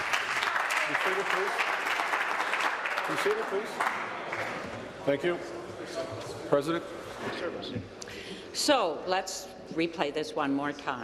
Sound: applause

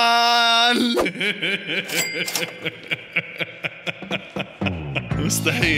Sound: laughter

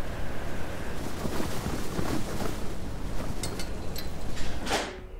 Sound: wind blowing

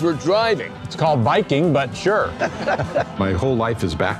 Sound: both laugh

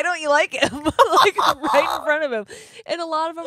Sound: laughing

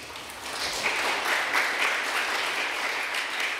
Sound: applause

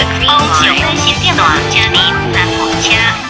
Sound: Mandarin

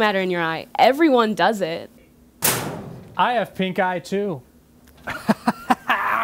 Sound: slams locker

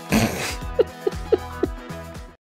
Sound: laughter

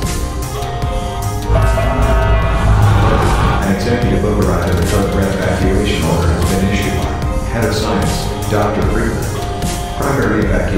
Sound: announcement Chime

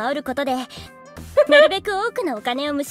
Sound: chuckles

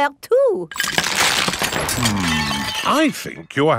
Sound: cracking

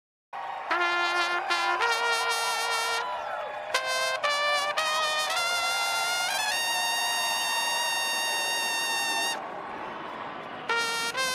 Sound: cheering

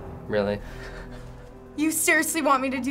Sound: Finebros snickers

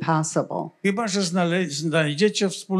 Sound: foreign language

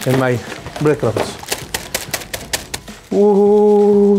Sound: crackers smash

